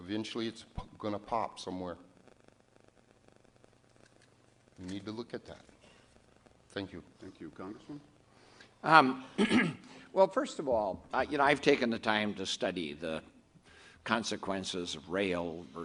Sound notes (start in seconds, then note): 9.2 clears throat